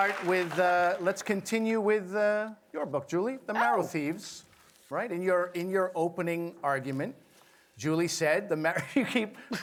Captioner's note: applause